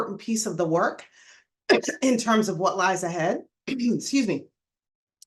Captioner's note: clears throat